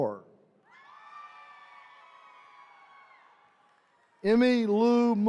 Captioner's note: attendees cheering